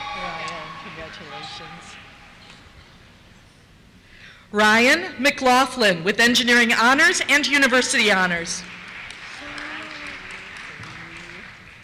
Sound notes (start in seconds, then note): 8.2 applause